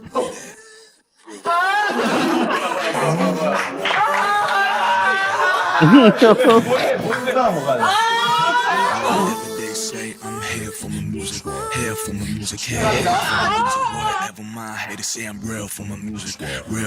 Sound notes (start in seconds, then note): 1.3 shouts; 1.4 laughs; 3.8 screams; 7.8 screams